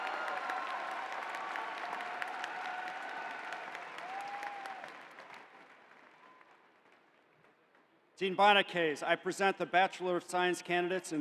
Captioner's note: cheering